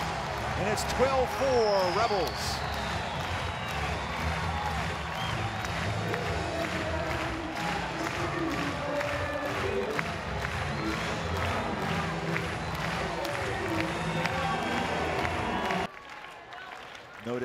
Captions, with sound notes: and it's 12-4, Rebels. [crowd cheering and clapping]